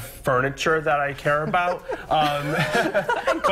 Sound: laughter

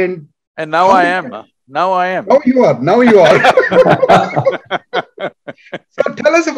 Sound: laughter

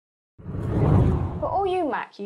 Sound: whooshing

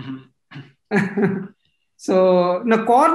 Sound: laughs

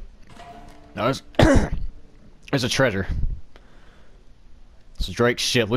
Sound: clearing throat

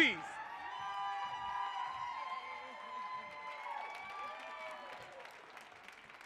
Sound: audience cheering and applauding

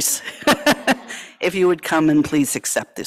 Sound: laughing

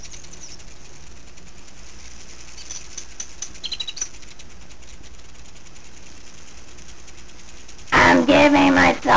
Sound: birds singing and all that nature jazz because we're in the woods and all

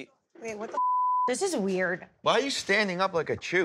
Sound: beep

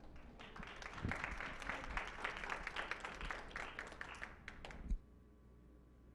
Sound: clapping

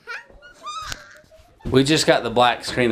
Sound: kid laughing

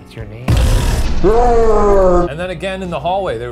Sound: slowed scream

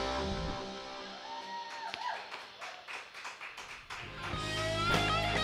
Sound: cheering and applause

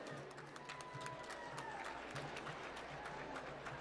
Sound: applause

